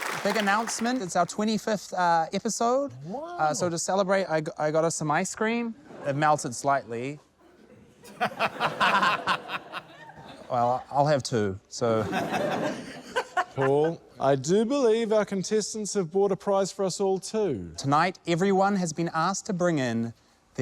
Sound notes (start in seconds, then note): 7.5 laughter; 12.8 laughter